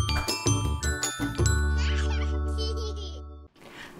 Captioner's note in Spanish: risas de bebé